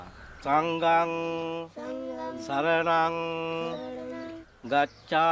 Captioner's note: chanting in foreign language